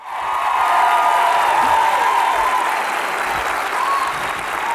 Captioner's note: audience cheering